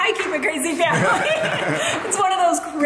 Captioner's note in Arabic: يضحك